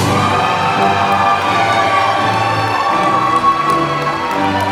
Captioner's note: applause